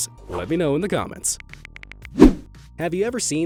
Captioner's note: phone clicking